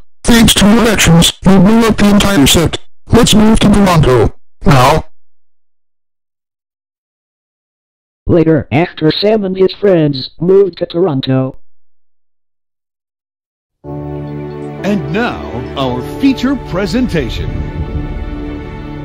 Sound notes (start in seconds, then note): 5.6 silence; 11.8 silence